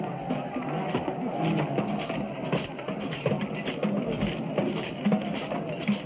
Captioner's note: people chanting indistinctly